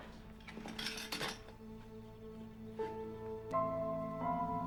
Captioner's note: materials clatter; suspenseful music